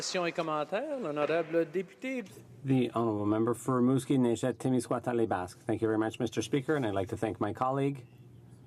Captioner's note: applause